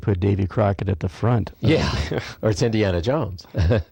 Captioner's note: chuckles